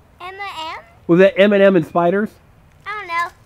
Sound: voiceover

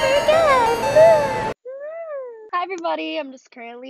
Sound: happy squeal

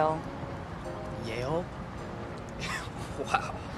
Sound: chuckles

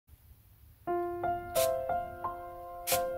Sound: spraying water sounds

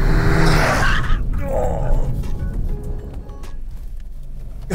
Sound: tires screeching

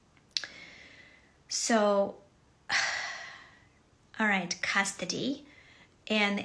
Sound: sighs

